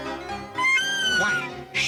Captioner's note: squawk